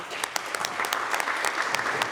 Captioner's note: applause